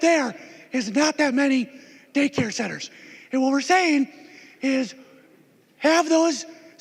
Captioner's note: gavel